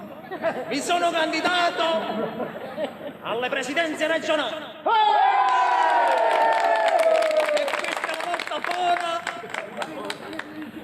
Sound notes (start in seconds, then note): 4.9 crowd cheers